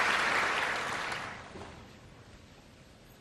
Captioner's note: applause